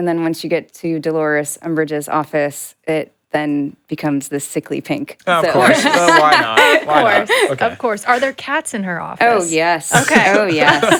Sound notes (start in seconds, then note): 5.2 all laughing